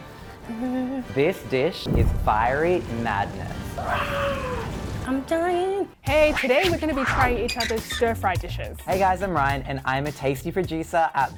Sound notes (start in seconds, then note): 1.8 fire crackling; 3.8 roaring